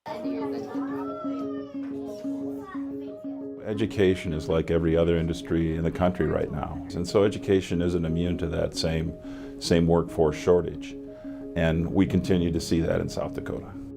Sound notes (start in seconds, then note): 0.0 children chatting; 0.9 bright music